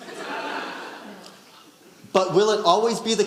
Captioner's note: audience laughing